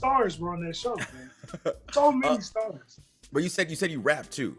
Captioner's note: laugh